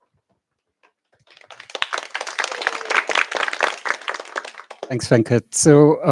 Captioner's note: applause